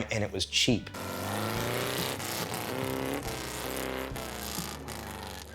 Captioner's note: car engine rumbling